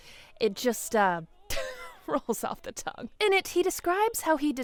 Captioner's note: laughs